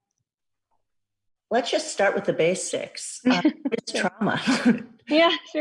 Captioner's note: laughs